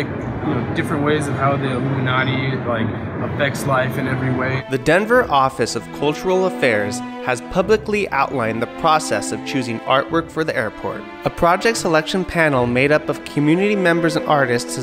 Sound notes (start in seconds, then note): 4.7 voiceover